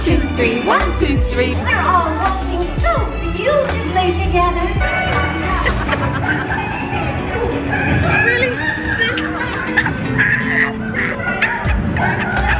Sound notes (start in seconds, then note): 4.8 Daisy squeaking; 5.0 laughing; 9.1 gentle upbeat music; 9.1 laughing